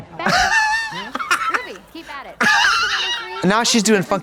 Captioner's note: Katya cackles